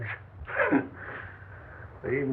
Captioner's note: guffaw